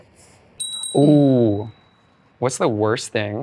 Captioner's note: bell ring